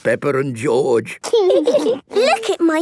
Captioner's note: laughing